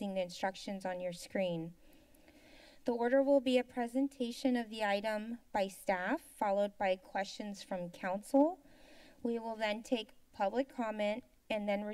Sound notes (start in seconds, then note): 1.8 inhales; 8.6 inhales